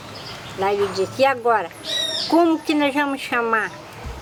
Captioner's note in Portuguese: pássaros cantando